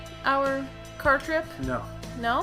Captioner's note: none